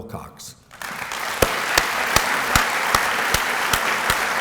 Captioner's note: applause